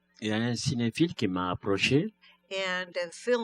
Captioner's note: speaking french